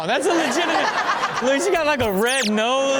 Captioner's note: all laugh